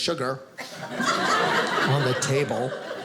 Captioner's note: audience laughing